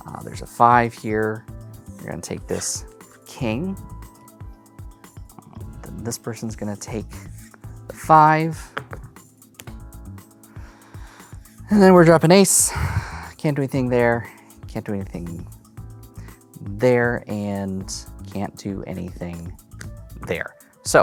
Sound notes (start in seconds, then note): 8.6 cards tapping; 8.7 cards slap; 12.6 sighing